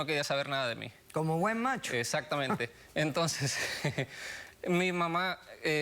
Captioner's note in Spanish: Ríe